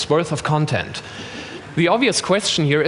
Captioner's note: laughter